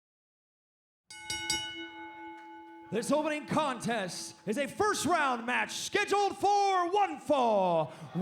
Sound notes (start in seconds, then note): 1.1 bell ringing